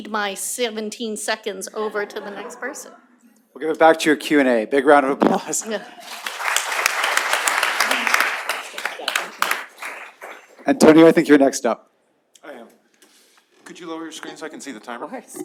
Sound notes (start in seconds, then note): 5.9 applause